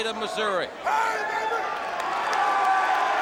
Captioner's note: crowd chatter; crowd cheering